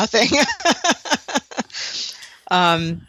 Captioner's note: laughter